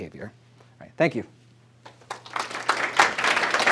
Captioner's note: applause